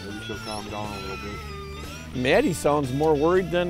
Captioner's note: whining